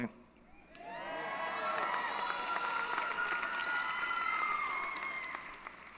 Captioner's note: applause & Cheering